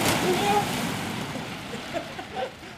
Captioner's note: risas